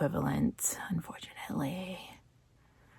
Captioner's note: whispers